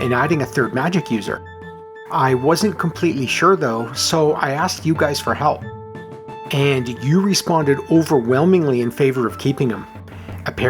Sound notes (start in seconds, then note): none